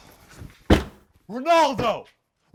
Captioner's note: door slams